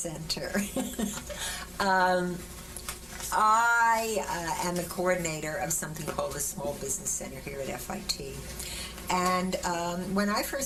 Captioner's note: laughter